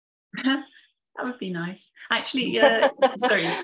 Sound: both chuckling

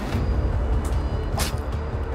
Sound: phone smashes on dirt

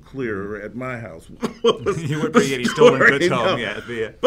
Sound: laugh

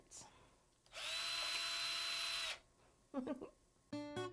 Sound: drilling - giggle

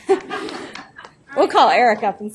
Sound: laughing

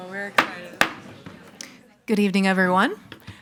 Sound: gavel thudding

